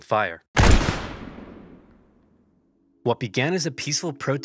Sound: gun fired loudly

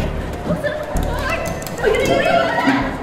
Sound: elevator opens

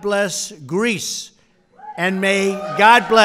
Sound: applause

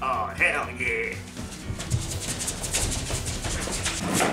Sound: feet shuffling sounds

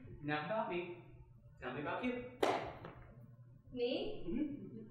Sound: slaps bench

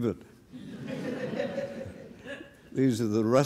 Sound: laughter

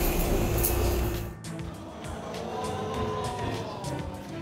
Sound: audience exclaims

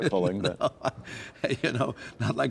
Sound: laughter

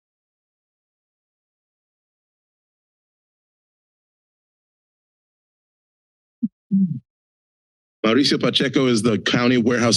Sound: silence

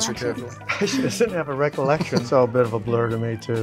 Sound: chuckles

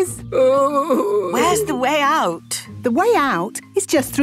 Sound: groaning

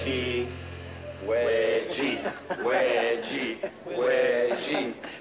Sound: chanting

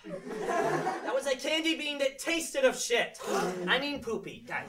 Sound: kids gasp

